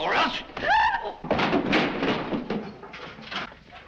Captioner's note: Hilda gasps; clatter